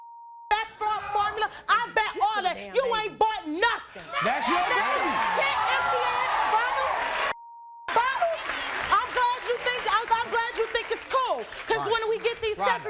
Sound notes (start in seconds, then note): 4.0 cheering and clapping